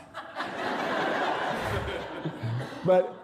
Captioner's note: laughter